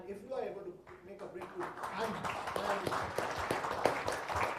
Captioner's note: applause